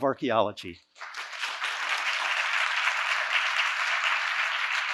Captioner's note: audience applauding